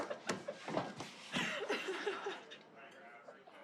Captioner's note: laughing